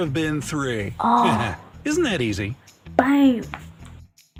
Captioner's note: laughs